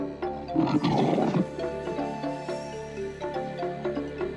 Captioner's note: lion growling